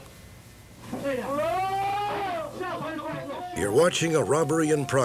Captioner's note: man yelling